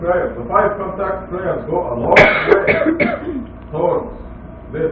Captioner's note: öksürük